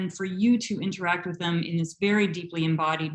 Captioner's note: none